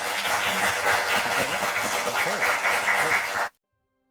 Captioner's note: applause